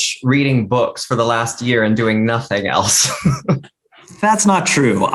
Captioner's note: laughs